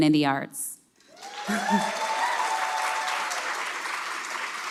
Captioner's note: cheers